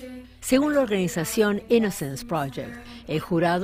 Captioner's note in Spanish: habla en ingles